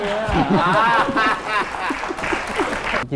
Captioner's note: laughing and applause